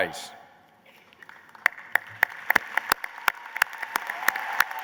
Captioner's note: applause